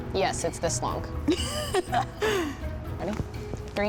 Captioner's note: laughs